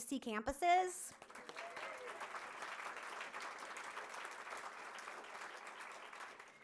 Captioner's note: audience applauding and cheering